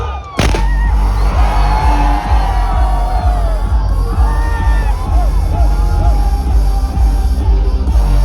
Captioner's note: fireworks and crowd went crazy